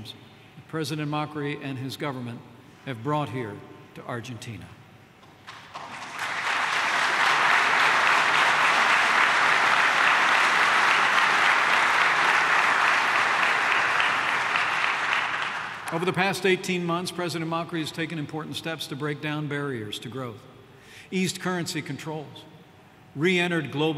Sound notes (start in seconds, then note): 5.4 applause